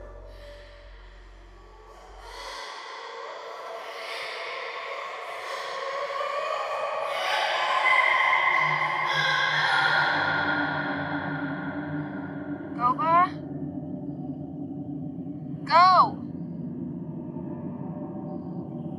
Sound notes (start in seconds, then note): 3.7 Laurel exhales loudly